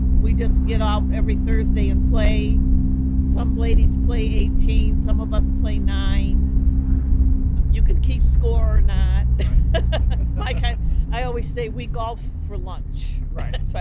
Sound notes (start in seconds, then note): 9.3 laughing; 13.4 laughing